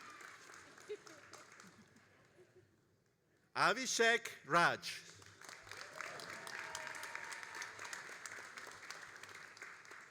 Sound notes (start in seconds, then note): 5.0 all applauding